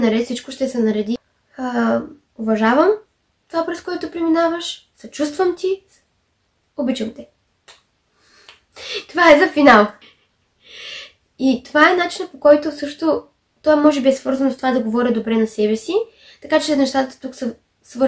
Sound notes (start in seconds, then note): 10.5 kiss